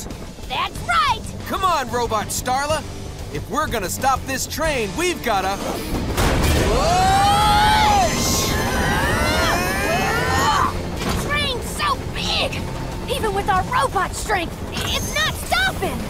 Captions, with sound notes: That's right. Come on, Robot Starla, if we're gonna stop this train, we've gotta... Whoa! [grunting] The train's so big even with our robot strength, it's not stopping.